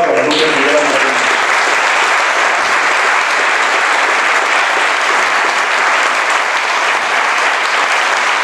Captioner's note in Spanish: applause